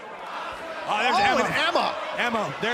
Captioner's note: fans chanting